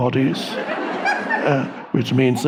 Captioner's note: audience laughing